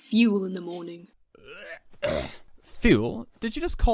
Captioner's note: Sirius makes an exaggerated retching noise